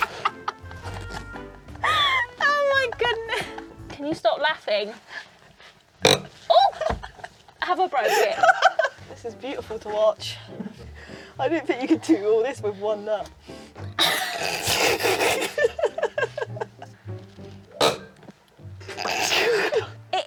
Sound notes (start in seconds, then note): 6.5 exclaims; 13.9 both laugh; 17.8 grinding sound; 18.8 laughs